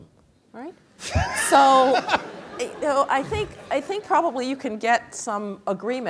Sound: laugh

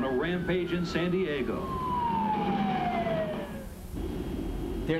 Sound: siren continues

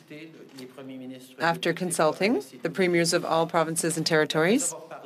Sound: speaking French

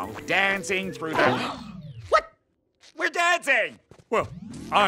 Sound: gasping

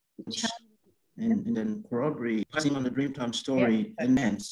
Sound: audio distorts

